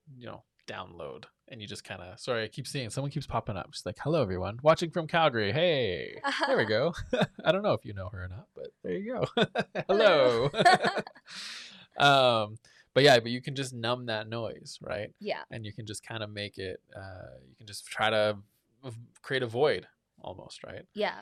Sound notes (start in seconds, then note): 6.2 laughs; 12.3 laughs